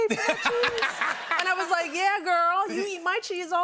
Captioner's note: laughter